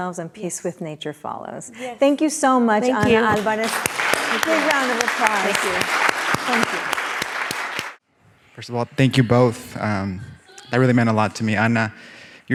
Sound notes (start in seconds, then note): 3.0 applauds; 7.2 audience applauding